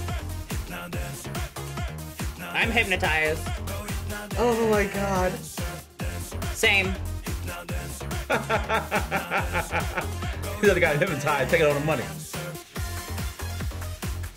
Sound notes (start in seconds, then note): 8.0 laughs